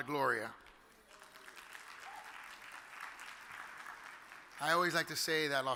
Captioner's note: audience applauds